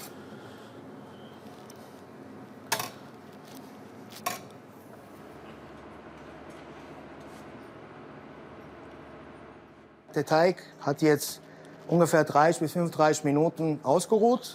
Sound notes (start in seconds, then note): none